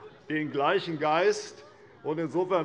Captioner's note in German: Lachen bei der FDP